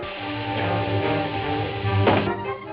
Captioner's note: thuds